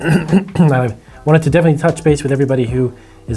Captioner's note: clears throat